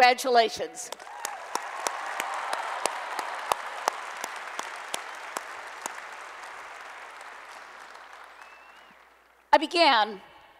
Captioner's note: applause and Cheering